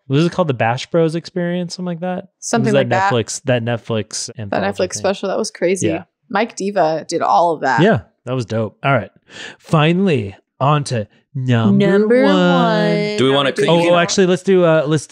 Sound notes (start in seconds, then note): 4.3 voice muffled